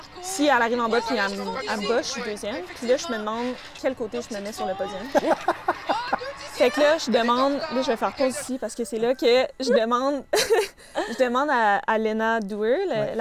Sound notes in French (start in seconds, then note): 5.0 rire